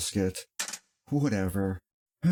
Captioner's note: clank